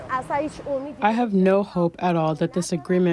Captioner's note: through translator